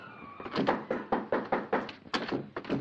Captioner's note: knocking on door